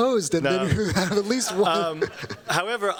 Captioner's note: chuckles